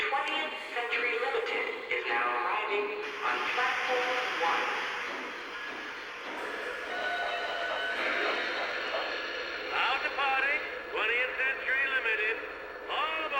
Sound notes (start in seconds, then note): 6.3 train whistling; 10.0 voiceover